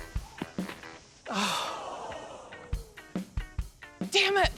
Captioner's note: sighs